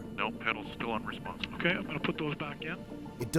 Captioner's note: voiceover